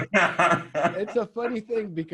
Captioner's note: laughs